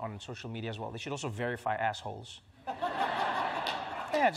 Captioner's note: laughter